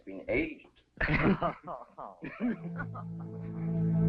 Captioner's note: Pepe and Elizabeth laughing; ominous string music